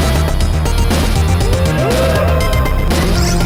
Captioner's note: cheering